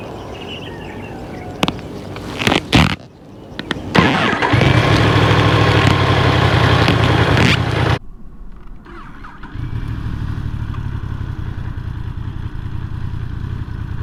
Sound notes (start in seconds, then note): 1.6 sharp grinding sound of leather clothing: again; 3.9 start engine sound reception